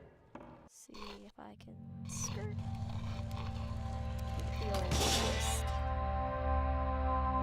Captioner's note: skkrrrrtt